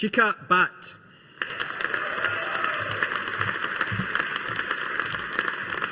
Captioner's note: audience applauding